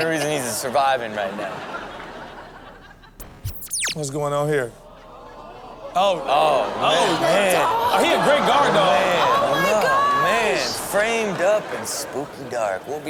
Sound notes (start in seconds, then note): 1.0 crowd laughing; 3.2 electronic buzz; 5.2 crowd comments